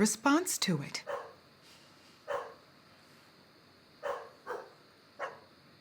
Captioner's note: dog barking in distance